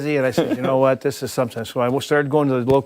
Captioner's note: laughter